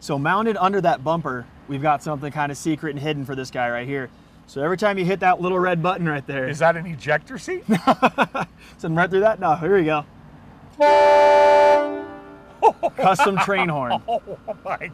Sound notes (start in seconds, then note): 10.7 horn blaring